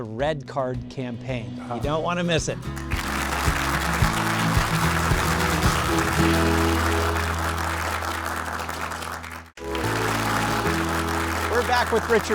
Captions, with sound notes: the Red Card Campaign. You don't want to miss it. [upbeat music] [applause]